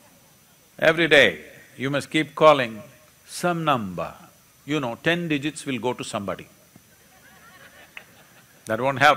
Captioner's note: laughter